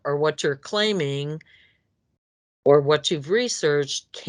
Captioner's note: none